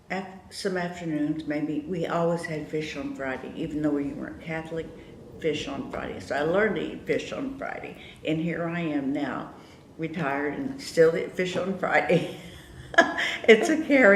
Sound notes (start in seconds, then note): 12.4 laughs